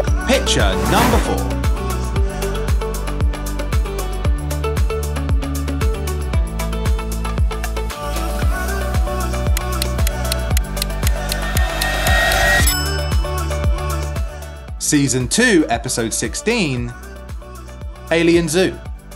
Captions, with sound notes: Picture number four. (upbeat music) (timer ticking) (bell dings) Season two, episode 16, "Alien Zoo."